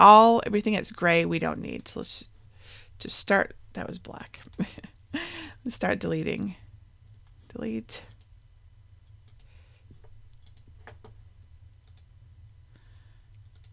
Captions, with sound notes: everything that's gray, we don't need, so let's just start, that was black (laughs). Let's start deleting, delete.